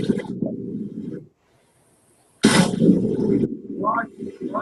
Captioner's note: wind howling